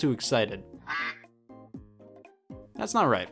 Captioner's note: duck quacking